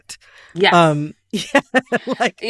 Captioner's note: laughter